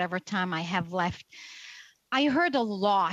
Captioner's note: speaking French